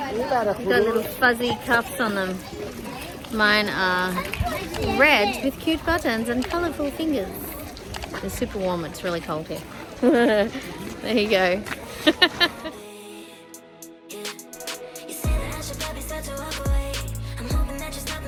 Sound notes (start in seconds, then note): 9.9 laughs; 10.0 giggles